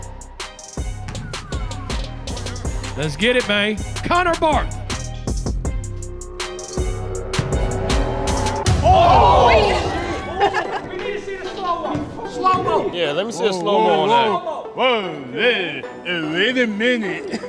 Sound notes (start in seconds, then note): 1.0 ball bouncing; 5.8 upbeat music; 7.3 ball bouncing; 8.4 crowd screaming; 10.0 laughing